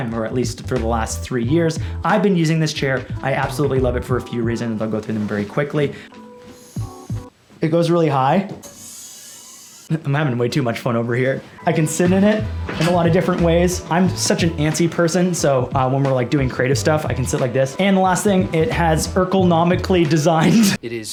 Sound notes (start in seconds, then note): 6.4 hissing of compressed air; 8.6 hissing of decompressed air